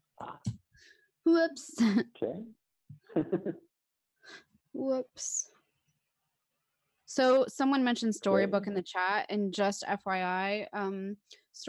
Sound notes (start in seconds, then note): 3.1 laughs